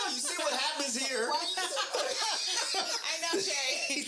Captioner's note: laughing